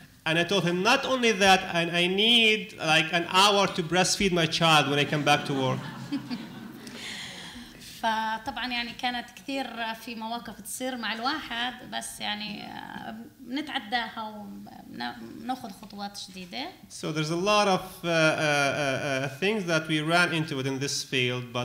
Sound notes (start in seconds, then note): 0.0 speaking arabic; 4.9 laughter; 8.1 speaking arabic